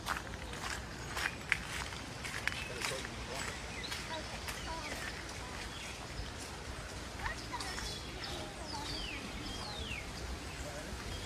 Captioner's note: birds chirping, crossing the wooden bridge